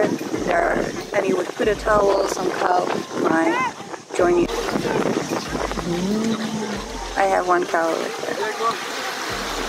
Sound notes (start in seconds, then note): 5.8 moos